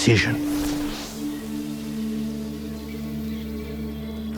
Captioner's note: ethereal whooshing